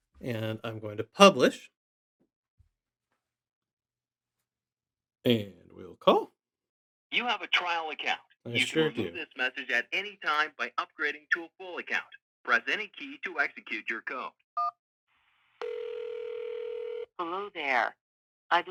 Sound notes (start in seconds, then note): 15.6 phone beeps; 15.6 phone ringing